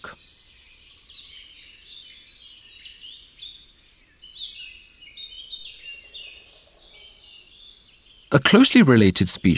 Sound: sounds of nature

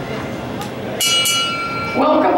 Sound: ringing

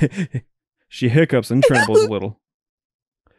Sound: hiccups

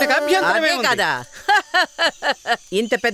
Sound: laughs

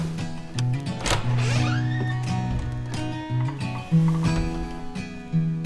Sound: door clattering and squeaking

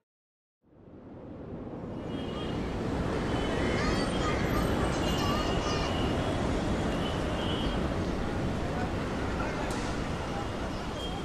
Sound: bustling city

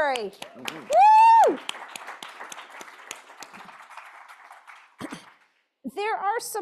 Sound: applause

